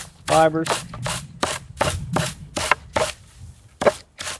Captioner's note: wood bangs